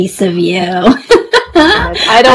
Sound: laughs

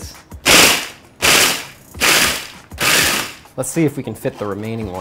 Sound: whirring

